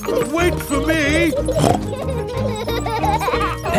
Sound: snorts

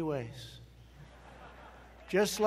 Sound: laughter

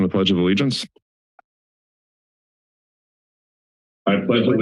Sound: silence

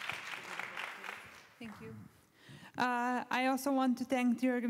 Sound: applause

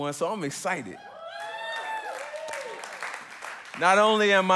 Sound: congregants cheering; congregants applauding

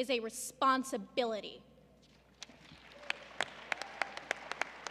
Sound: applause

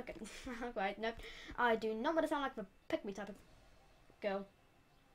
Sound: slight laugh

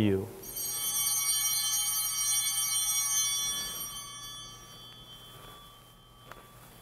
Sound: chimes ringing

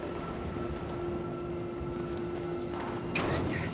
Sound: thunder rumbling

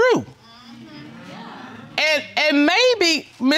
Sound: audience exclaims

